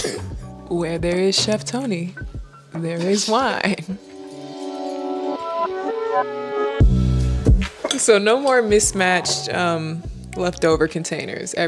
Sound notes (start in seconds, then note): 0.0 laughs; 2.8 laughs; 5.9 upbeat music